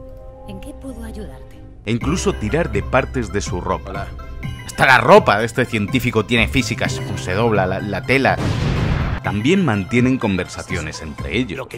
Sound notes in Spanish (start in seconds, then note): 8.3 Explosión